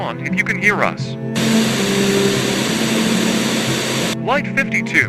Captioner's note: Static